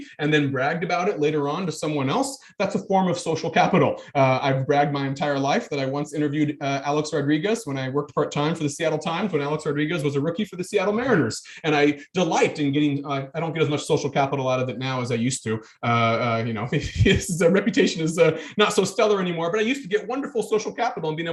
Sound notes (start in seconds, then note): 16.6 chuckling